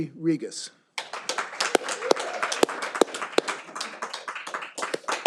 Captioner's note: all applauding